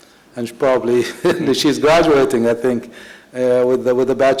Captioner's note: laughs